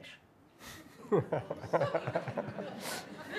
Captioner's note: laughter